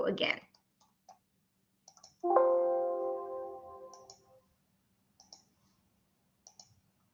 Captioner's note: silence